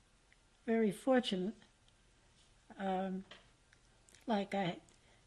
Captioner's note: pauses for 3 seconds